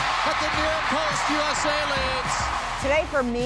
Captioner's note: crowd cheering